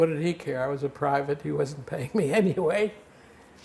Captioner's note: laughing